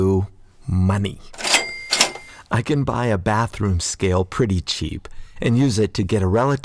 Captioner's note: sound of cash register